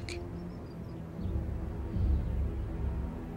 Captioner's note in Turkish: Kuş ötüyor